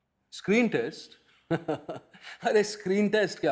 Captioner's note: guffaws dismissively